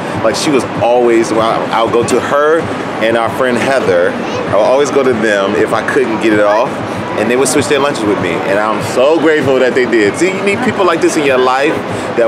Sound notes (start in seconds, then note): none